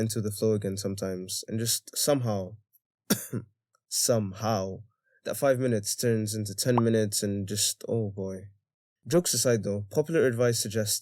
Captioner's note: coughs